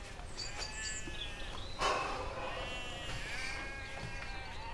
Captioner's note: bleating continues